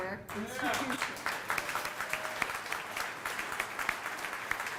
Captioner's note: audience applauding